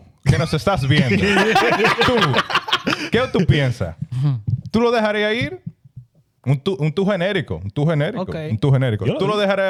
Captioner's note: laughing; speaking In Foreign Language